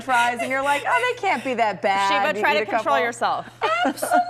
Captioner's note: laughter